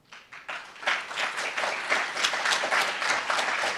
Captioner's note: applauds